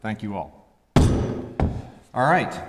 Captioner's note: gavel thuds